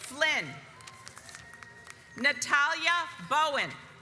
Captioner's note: audience applauds